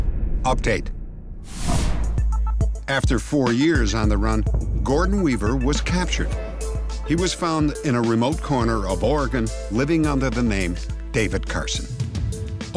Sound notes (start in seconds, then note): none